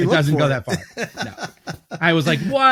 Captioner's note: laughs